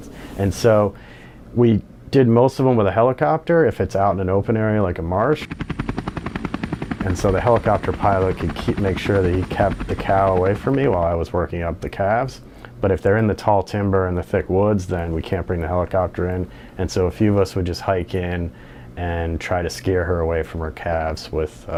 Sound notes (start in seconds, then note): 5.3 helicopter noise